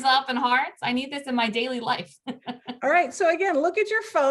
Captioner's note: laughing